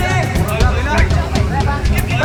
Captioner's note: indistinct chatter